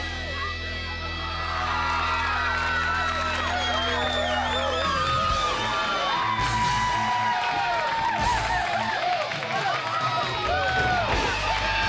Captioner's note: crowd cheering